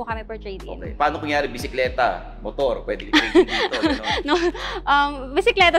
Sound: laughs

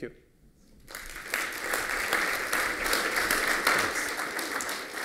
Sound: applause

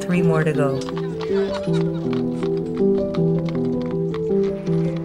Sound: hooves clopping

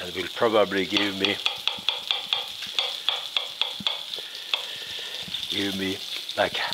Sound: pan sizzling; knife softly chopping

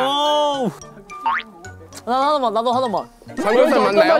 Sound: nibbles a taste

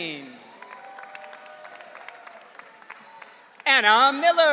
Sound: audience cheering

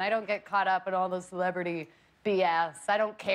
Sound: laughter

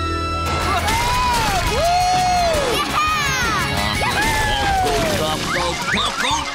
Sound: cheering

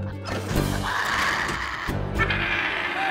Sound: growling

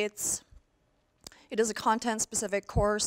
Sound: none

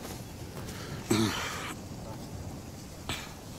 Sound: clears throat

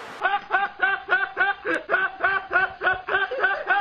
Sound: super long funny laughter from a fan

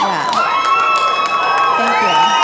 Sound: audience cheering

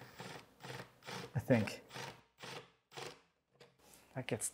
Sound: drill humming

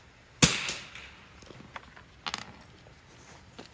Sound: gun bangs

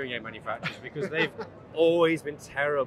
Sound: laughing

